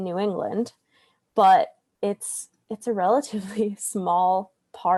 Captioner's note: laughs